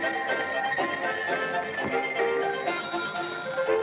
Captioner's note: none